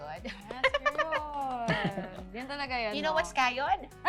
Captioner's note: chuckling